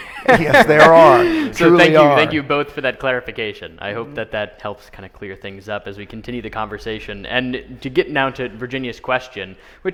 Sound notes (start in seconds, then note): 0.0 laughing